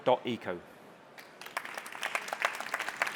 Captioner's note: applause